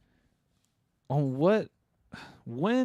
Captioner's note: scoffs; sighs